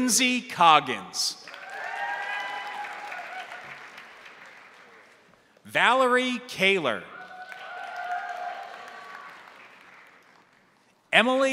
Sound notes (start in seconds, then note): 1.4 crowd applauding; 1.4 crowd cheering; 7.1 crowd cheering; 7.2 crowd applauding